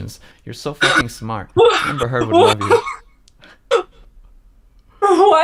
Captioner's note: laughs